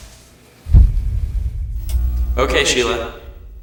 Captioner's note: dull thud